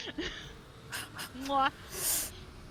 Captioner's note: laughs